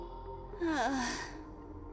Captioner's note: sigh